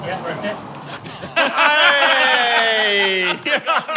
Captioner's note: group laughing